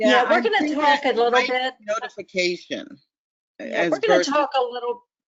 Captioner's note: voiceover